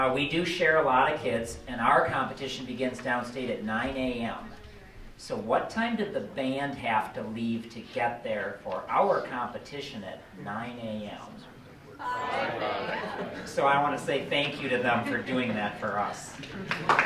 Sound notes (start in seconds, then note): 12.3 children in Unison